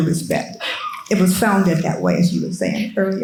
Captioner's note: attendee coughing